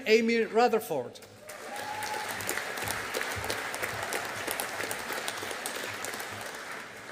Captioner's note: audience applauding